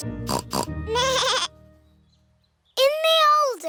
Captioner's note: both giggling; snorts; bleats